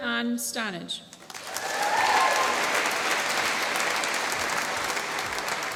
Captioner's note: applause